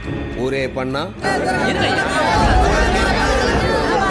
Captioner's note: loud voices in protest